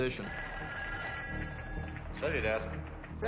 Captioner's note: phone rings